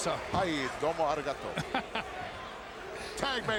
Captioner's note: speaking foreign language